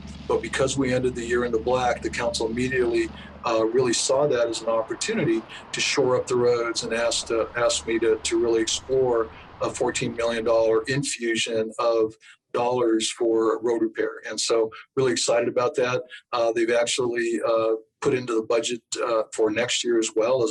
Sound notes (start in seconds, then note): 4.5 traffic humming